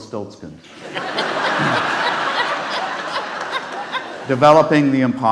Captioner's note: audience laughs